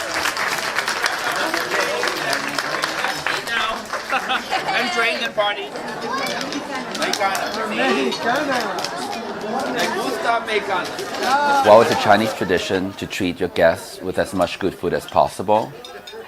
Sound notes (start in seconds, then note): 1.4 audience applauding; 6.3 all chattering; 10.0 speaking foreign language